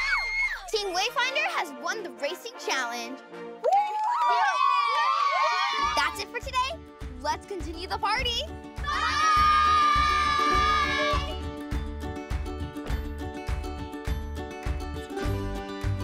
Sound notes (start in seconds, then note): 3.6 cheering; 11.5 cheerful music